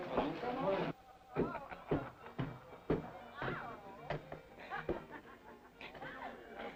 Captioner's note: woman and Frank chattering and laughing